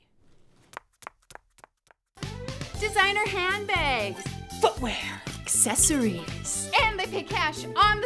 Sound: footsteps

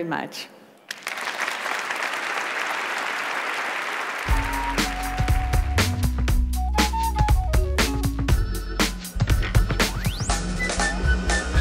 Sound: applause

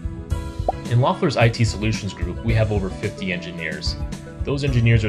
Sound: bubble pop

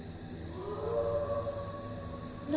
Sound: roar in a distance

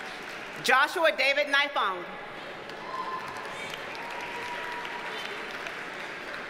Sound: audience cheers and applauds

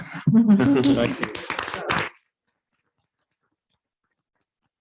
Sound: applause

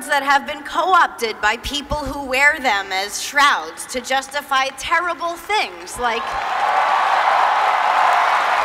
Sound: applause

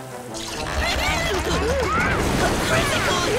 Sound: screaming

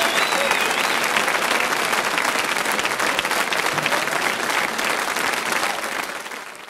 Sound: audience applause continues

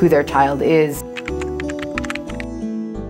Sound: typewriter keys tap

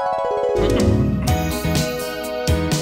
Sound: soft harp music; upbeat retro music; Daniel clearing throat

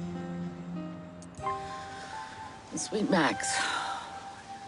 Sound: inhales deeply; exhales deeply

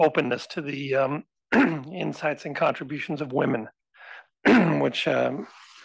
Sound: cough

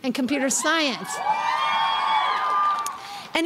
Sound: crowd cheering

